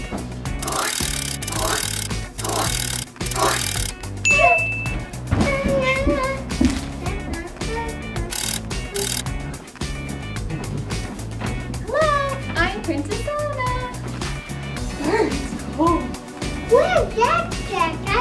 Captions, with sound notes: (cranking) (light bulb dings) (cranking) - Hello, I'm princess Anna. Brr, it's cold. - Where's Jack Jack?